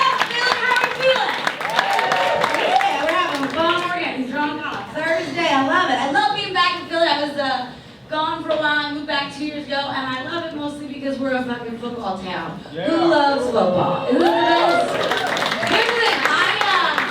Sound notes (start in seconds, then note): 2.0 audience cheers; 14.0 audience cheers